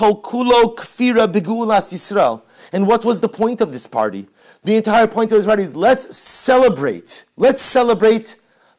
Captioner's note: Hebrew